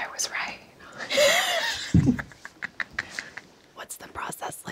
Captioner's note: everyone laughs